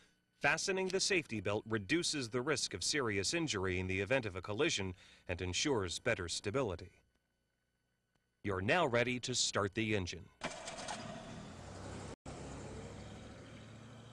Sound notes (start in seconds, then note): 10.4 engine starts